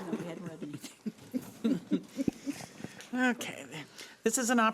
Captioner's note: laughing